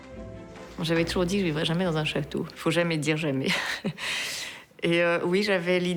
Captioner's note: speaking in foreign language